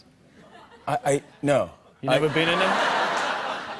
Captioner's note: laughter